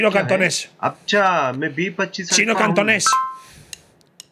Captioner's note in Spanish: habla en un idioma extranjero